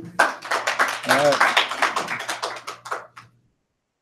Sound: applause

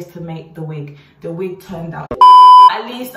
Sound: beeping tone

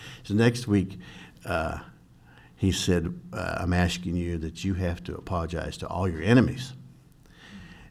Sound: none

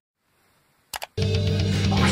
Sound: click

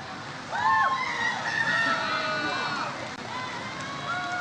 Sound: audience cheers

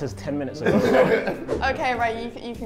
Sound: Sidemen laugh

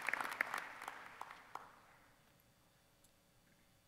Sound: applause

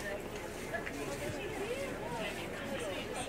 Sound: chattering

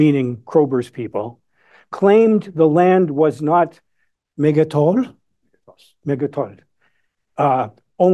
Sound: non-english

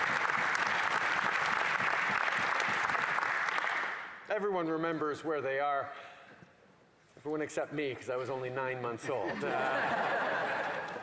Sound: cheering and Applause

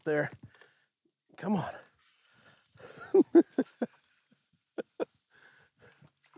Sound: giggles

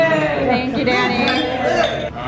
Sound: cheering; chuckling

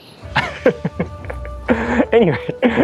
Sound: chuckles

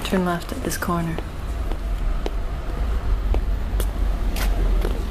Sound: footsteps

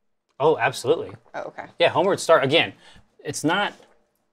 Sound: none

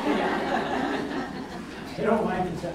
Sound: audience laughs

